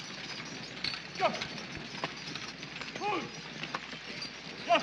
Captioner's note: driver shouting